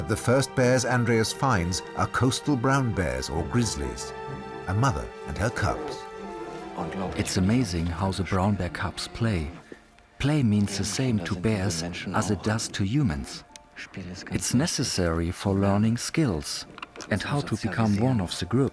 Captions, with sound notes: But the first bears Andreas finds are coastal brown bears, or grizzlies. A mother and her cubs. [in German] It's amazing how the brown bear cubs play. Play means the same to bears as it does to humans. It's necessary for learning skills and how to become one of the group.